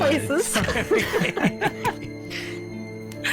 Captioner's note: laughter